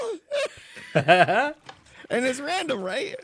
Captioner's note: laughs